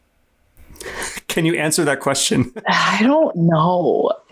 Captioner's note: chuckles